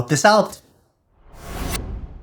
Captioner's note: whoosh